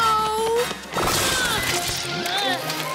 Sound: groans

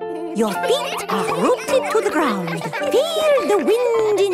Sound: all giggling

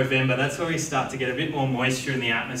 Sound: none

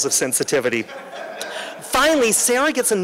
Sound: laughter

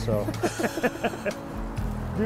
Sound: guys laugh

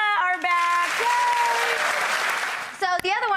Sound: audience cheers

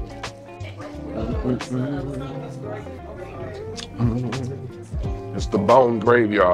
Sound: customers chatter; upbeat music; hums

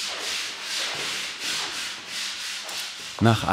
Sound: hand grinding noises in the background

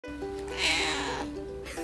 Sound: rough meow

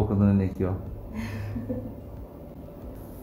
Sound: laughs

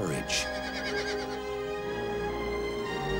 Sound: horse neighs

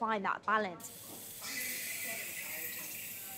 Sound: steam hissing

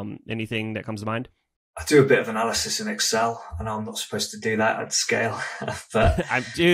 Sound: laughs

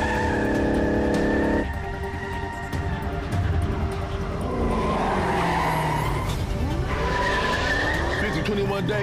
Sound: tires squeal

